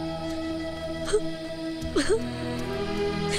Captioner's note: Crying